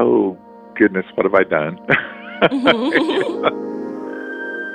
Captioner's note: laughs again